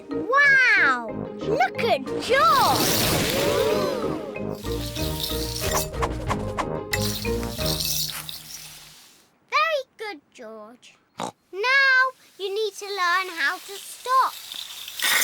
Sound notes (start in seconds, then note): 10.8 snorts